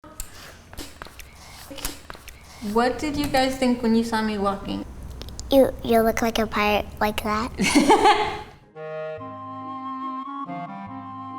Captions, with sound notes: - What did you guys think when you saw me walking? - You look like a pirate like that. (laughing) (soft music)